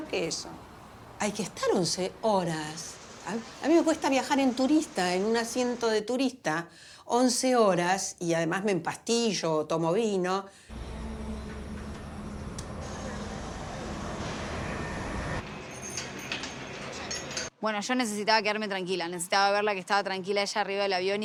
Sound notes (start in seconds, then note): 10.7 aircraft engine sound